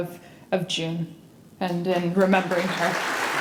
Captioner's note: applause